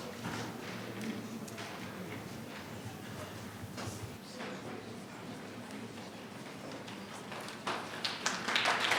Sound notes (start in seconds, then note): 4.6 speaking faintly